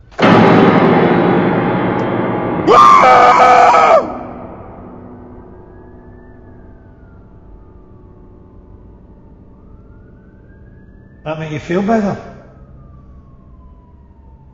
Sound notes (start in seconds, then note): 2.6 screaming; 5.2 police siren